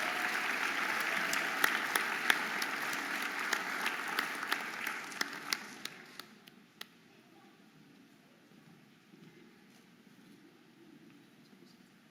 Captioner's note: audience applauding and cheering